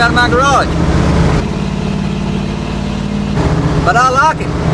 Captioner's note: car engine rumbles